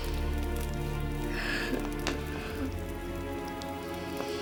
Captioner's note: grunting